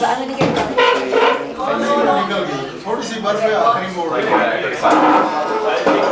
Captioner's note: people chattering; dishes clanging